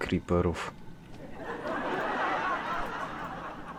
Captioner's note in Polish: śmiech z sitcomu